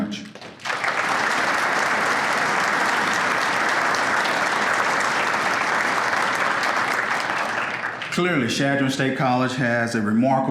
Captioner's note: applause